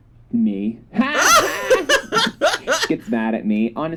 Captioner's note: laughter